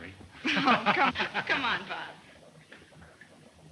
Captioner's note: laughs